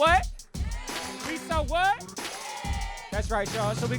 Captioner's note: crowd